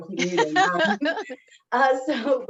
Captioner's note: laughs